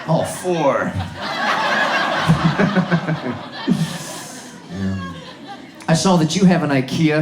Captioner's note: audience laughs